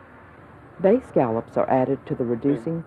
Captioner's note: voiceover